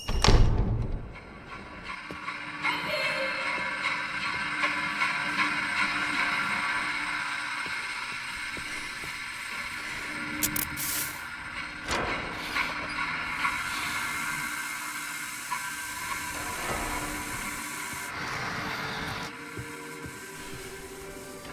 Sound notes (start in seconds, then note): 0.0 door closes; 3.7 suspenseful music; 10.4 lights buzzing